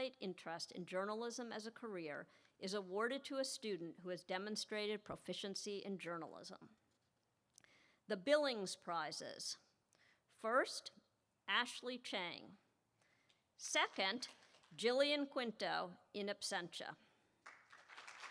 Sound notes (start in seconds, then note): 13.9 applause